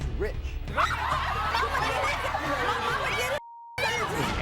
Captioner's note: women yell